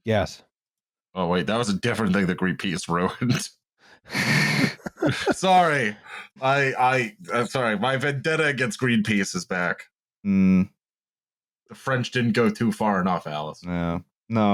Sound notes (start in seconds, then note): 4.1 laughter